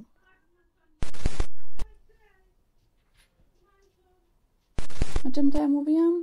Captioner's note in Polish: odgłosy tuptania piesków i rozmów